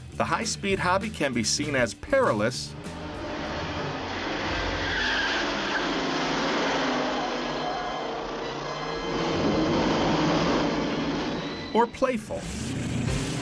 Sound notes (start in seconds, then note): 2.9 engines revving; 5.0 dramatic music; 5.0 tires screeching; 12.3 tires screeching; 12.3 engines revving; 13.1 upbeat music